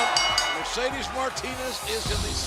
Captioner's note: bell ringing